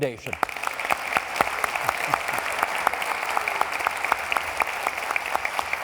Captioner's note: applauding